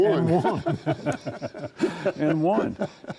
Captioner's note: both laughing